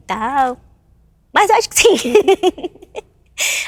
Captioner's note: laughs